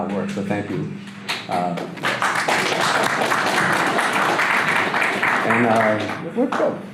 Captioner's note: audience applause